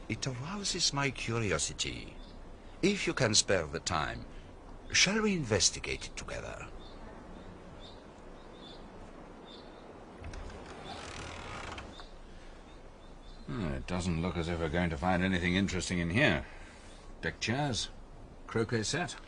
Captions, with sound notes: It allows us my curiosity. If you can spare the time, shall we investigate it together? (Birds chirping) Hmm. It doesn't look as if we're going to find anything interesting in here. Pictures. Croquet set.